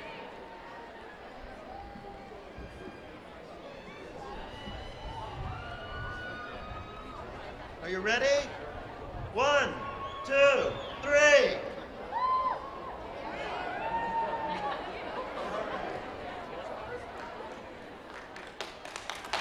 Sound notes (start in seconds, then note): 9.4 cheering